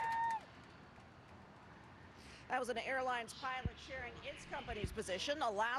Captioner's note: applause